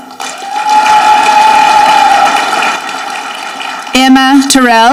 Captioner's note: audience clapping